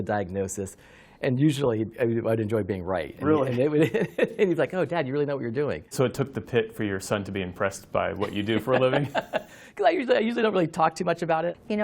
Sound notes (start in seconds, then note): 8.2 laughter